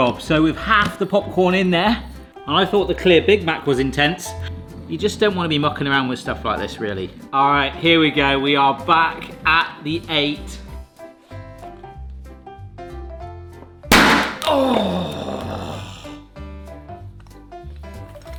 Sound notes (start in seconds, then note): 13.9 vessel bangs; 14.5 light music